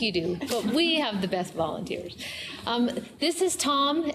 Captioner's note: laughter